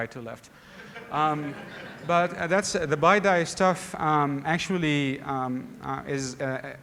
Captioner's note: laughter